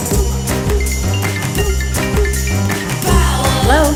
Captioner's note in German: Rufton ertönt